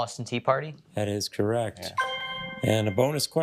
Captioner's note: triumphant chime